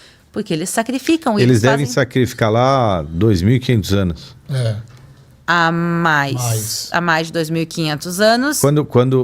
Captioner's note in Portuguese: limpando a garganta